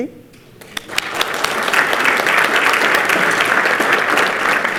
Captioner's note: participants clap